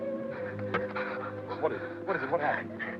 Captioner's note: Pilar breathes heavily